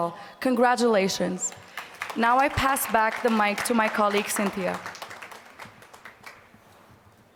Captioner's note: applause